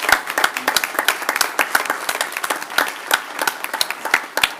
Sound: applause

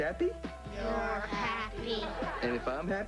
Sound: kids, bored, in unison

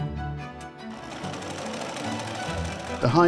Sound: sewing machine whirring

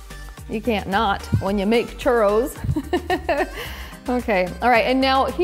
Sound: laughs

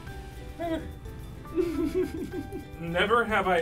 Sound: chuckling

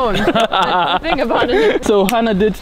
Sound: laughing

